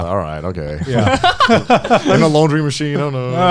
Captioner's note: both laughing